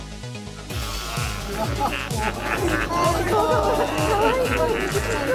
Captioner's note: maniacal laughing